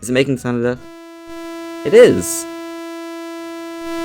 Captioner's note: buzzing